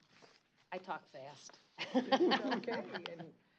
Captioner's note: chuckle